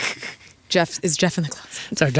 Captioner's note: laughing